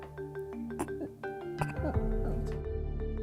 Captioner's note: sobs